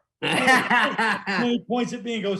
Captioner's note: laughing